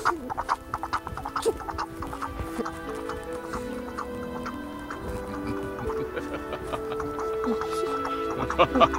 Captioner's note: The sound increased to a fevered pitch as Ichabod squeals in terror